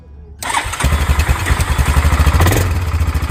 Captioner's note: engine starts